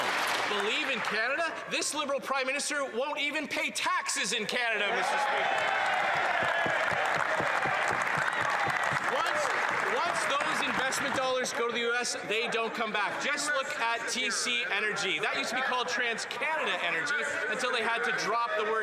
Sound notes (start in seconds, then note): 0.0 applause; 9.3 cheers & Applause